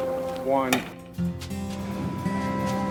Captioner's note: gun pops